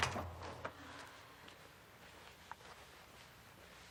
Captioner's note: Marlee sighs